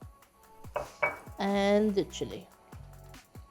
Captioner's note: bowl clinking